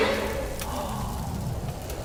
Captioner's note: exclaims